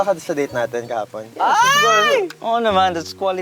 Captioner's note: shrieks